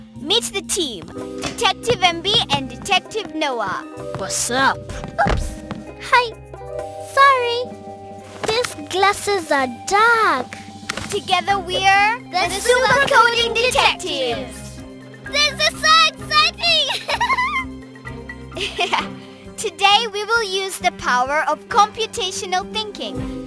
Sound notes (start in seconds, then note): 15.2 squeals excitedly; 16.8 laughs